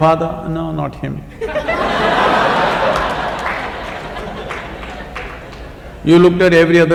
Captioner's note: laughter